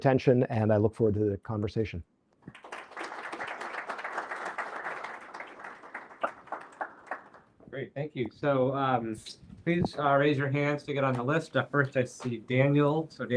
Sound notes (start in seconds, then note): 2.5 applause